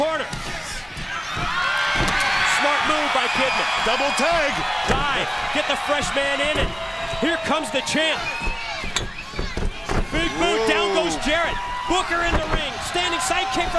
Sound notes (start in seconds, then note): 2.3 crowd cheering